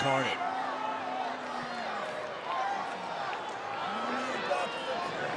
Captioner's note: crowd yelling